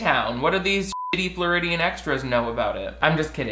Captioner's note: beep